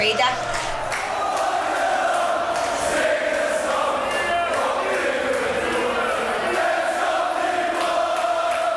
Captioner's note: crowd chanting "Ole, Ole, Ole"